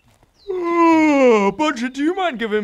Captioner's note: yawn